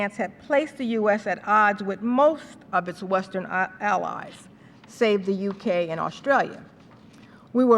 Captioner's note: none